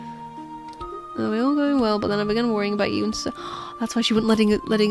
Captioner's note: gasps